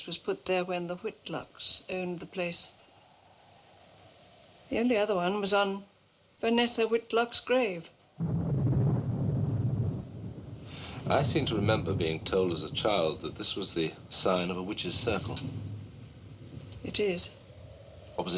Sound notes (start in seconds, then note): 8.1 thunder Rumbling